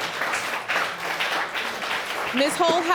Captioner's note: audience applauding